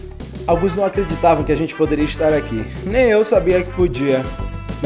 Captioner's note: man speaking Portuguese